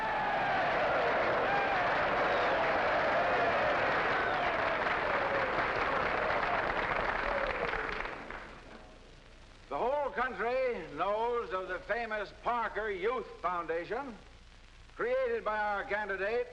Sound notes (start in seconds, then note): 1.6 crowd applauding; 1.6 crowd cheering